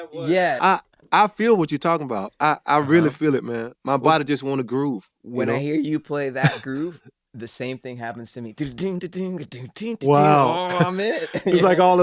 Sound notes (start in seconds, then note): 9.9 hums